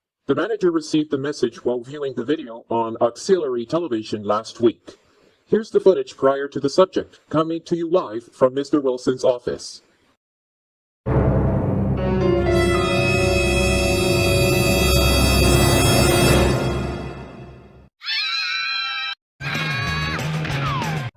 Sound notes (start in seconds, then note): 18.0 voices screaming